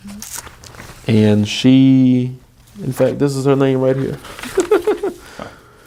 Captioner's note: laughing